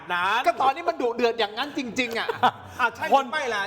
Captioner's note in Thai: เสียงหัวเราะ